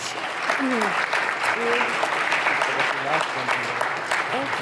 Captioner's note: audience applauds